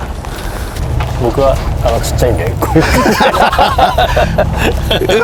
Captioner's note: laugh